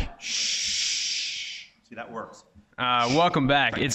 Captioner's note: shushes